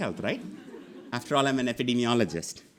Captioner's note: audience laughing